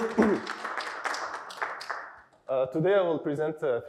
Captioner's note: applause